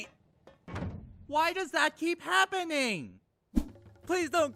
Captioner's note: door closes; whiny